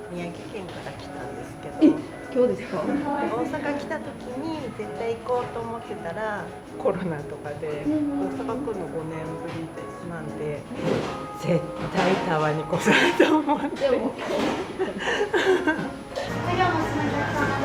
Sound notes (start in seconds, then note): 15.7 laughs